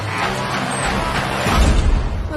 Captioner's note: door clangs shut